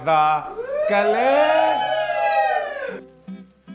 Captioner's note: team shouting